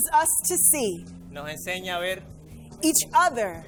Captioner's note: interpreter speaking in foreign language